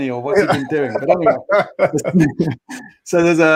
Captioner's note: laughing